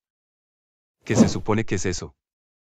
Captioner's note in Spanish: FX - Whoosh - 03